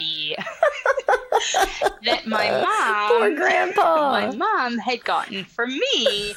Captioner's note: laughs